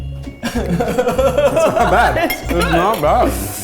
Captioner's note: laughing